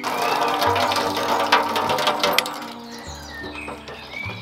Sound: water splashes

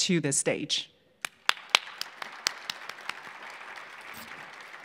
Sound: audience clapping

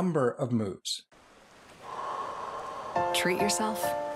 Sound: exhaling

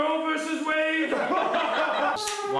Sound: laughter

